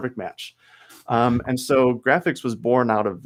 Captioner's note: chuckles